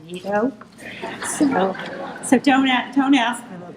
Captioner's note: audience laughing